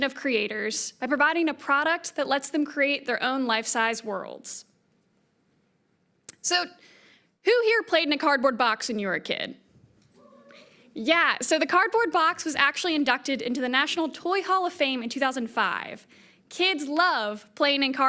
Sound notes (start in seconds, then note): 9.4 hands raise and crowd whistles